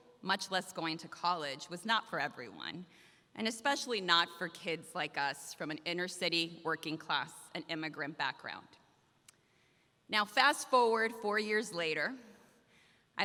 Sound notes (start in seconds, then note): none